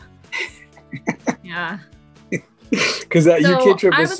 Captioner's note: laughs